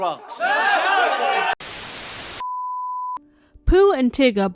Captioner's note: cheering; static